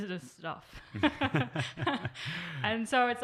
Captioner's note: all laughing